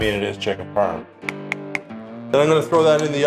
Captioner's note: taps cheese